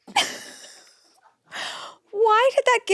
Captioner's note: chuckles